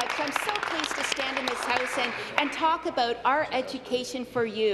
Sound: applause

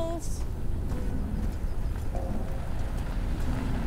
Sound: car approaching

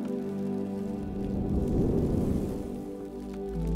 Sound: energy crackling; emotional music

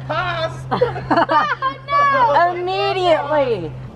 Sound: laugh

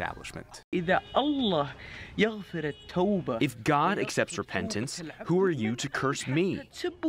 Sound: through translator

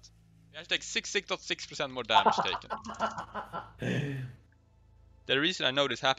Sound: hahaha

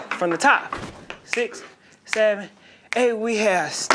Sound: snapping

